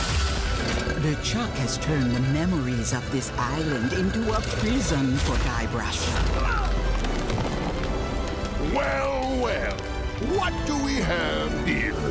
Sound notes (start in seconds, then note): 6.3 grunts